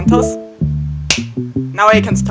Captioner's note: clap